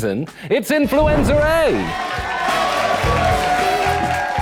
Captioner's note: cheering and applause